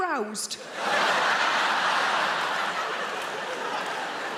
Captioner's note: audience laughing